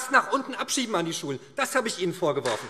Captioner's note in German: Beifall SPD